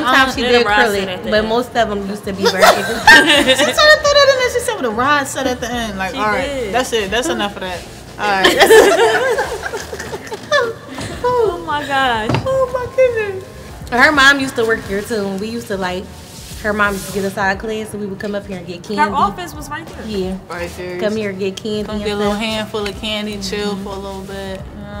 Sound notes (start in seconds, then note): 8.4 laughing